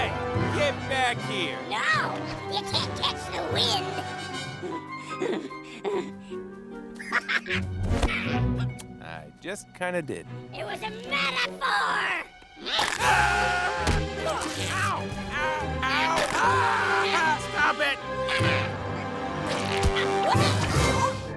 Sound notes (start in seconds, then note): 7.0 laughing; 12.7 chomps